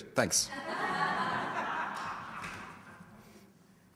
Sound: audience laughter

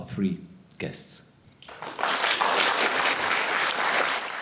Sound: applause

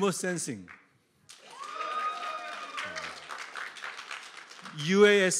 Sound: applause

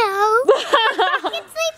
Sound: laughing

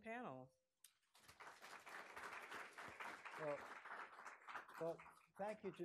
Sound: audience applauding

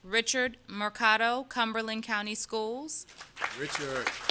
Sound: applause

